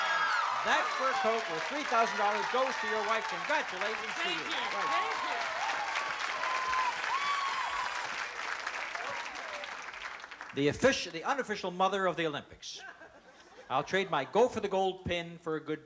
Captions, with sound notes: That's fur coat worth $3,000 goes to your wife. Congratulations to your wife. - Thank you, thank you! [APPLAUSE, CHEERING] - The official-- the unofficial mother of the Olympics. "I'll trade my 'Go for the Gold' pin for a good deal."